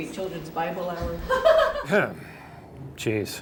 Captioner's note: singer in background laughs too hard